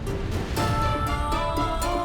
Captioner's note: poignant vocalisation